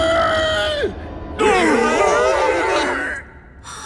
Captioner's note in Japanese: どよめき声